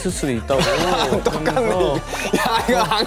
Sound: haha

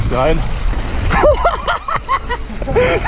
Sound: laughter

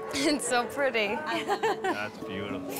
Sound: crying

